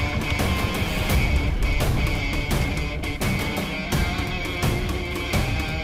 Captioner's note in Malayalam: none